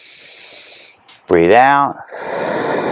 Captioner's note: exhales